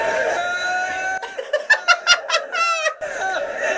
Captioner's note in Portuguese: gargalha; risos